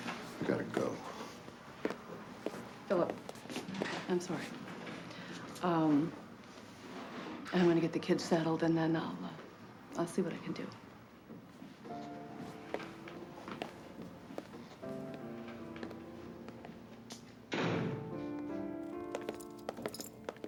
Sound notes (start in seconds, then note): 17.5 door closes; 19.2 slow instrumental music playing